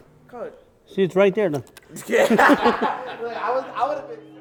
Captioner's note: laughing